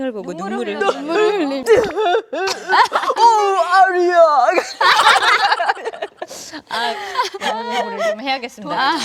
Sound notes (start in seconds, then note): 0.7 sob sob